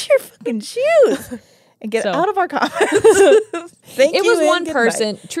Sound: laugh

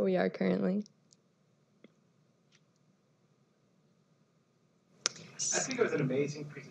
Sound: silence

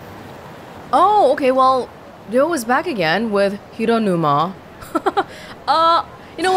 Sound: chuckles

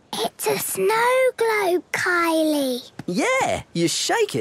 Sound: whispering

